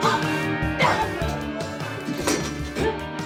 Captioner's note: dramatic death wails